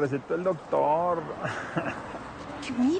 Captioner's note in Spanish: Risas